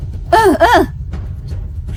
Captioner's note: coughing